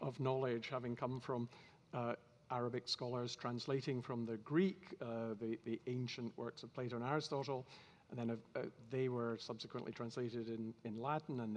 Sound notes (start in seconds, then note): none